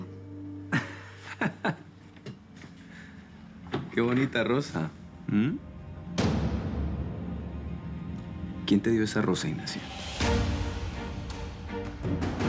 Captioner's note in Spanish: Él ríe